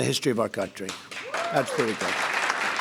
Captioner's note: applause